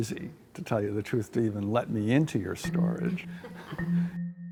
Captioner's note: laughs